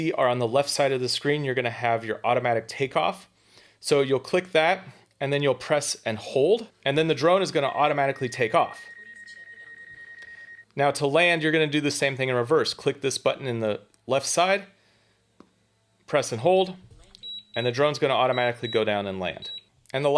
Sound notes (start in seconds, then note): 9.2 drone beeping